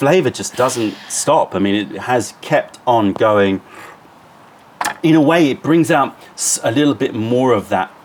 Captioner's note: sips tea